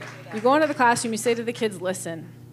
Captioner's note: applause